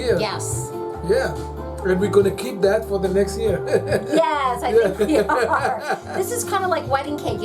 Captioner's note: laughs